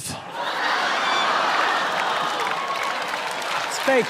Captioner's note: people laughing